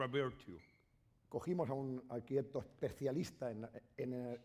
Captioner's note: speaking spanish